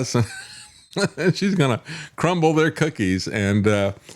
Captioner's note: laughs